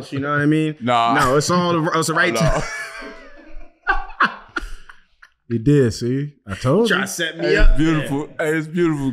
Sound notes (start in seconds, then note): 2.3 laughing